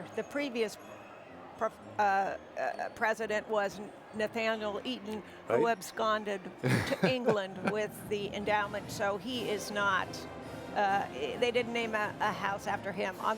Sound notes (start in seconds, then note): 6.6 chuckles